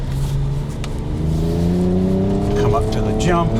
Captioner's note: engine whirring